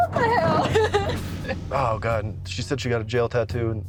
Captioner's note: laughing